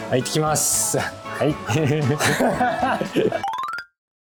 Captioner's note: laughing